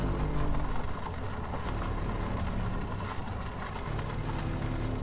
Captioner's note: engine rumbling